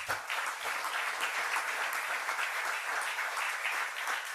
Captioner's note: applause